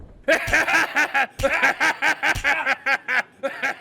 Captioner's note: laughing